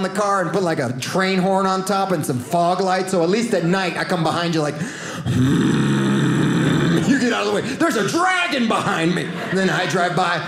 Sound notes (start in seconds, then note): 5.2 deep groaning noise